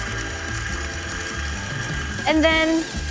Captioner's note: machine whizzing